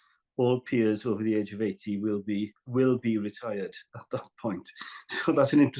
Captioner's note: laughs